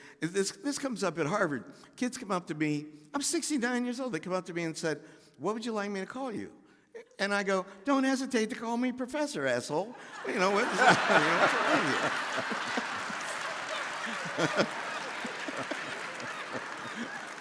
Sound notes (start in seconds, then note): 11.4 audience laughing; 12.2 laughing; 13.1 Henry laughing